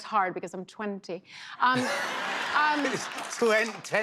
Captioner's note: laughter